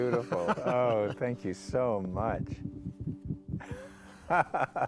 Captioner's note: laughter